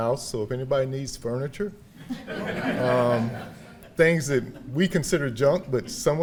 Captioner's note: audience laughing